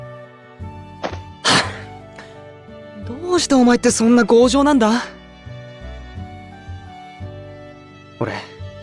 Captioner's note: sigh